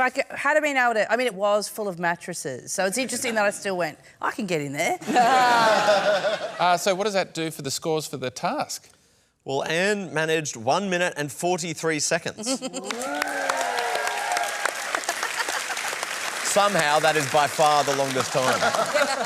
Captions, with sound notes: if I had been able to... I mean, it was full of mattresses. So it's interesting that I still went, "I can get in there." (LAUGHTER) Uh, so what does that do for the scores for the task? Well, Anne managed 1 minute and 43 seconds. Ooh! (APPLAUSE) Somehow, that is by far the longest time.